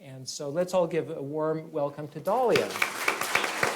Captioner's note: applause